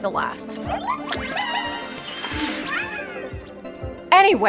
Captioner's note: mysterious magical sound